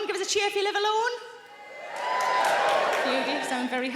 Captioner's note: audience cheers